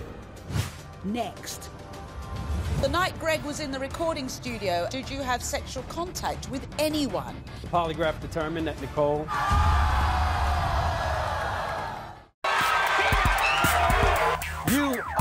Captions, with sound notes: Next. The night Greg was in the recording studio did you have sexual contact with anyone? - The polygraph determined that Nicole-- (audience yells and boos)